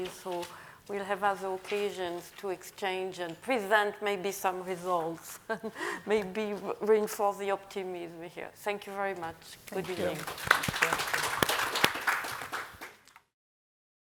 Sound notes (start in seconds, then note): 5.5 chuckling; 9.8 audience applauding